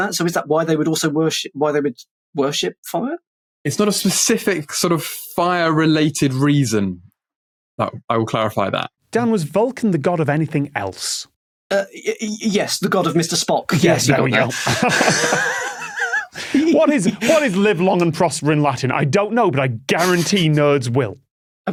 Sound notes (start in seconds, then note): 14.3 chuckles; 14.5 wheezes